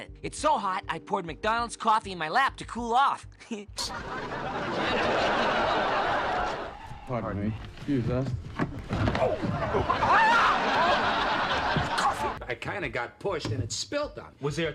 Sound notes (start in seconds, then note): 3.8 laughs; 3.8 audience laughing; 8.1 chair clattering; 9.8 screams